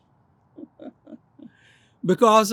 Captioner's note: laughs